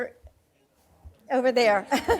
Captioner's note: laughing